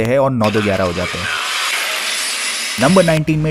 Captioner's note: mirror shatters